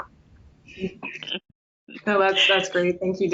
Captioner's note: chuckle